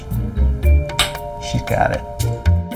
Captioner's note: clicks tongue